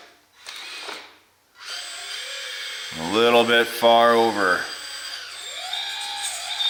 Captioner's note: motor whirs